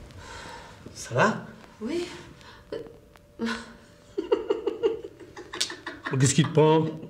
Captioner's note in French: rires